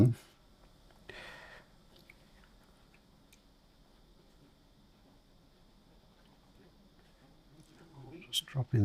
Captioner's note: silence